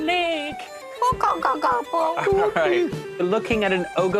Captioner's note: babbling